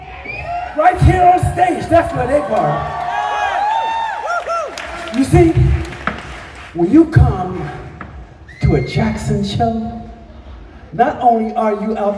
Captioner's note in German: jubel